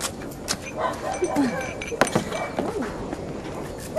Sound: Mita clears throat

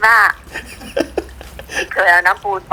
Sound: laughing

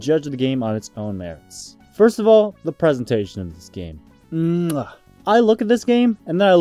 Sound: chef’s kiss

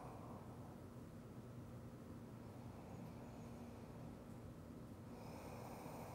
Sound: breathes deeply

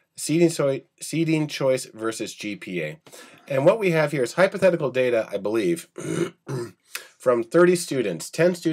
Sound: clearing throat

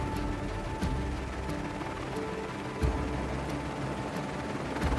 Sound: blades whirring

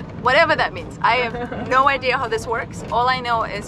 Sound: laughing

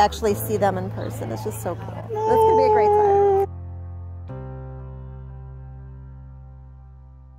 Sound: awww

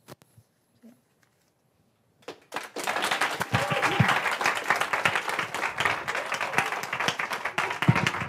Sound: applause

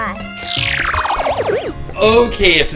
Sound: laser sound

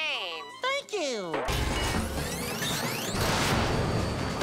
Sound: whirring

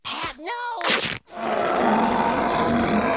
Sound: roaring

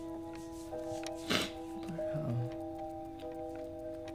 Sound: sniffles

